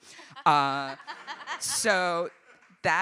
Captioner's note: audience laughing